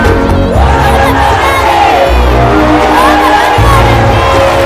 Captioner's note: cheering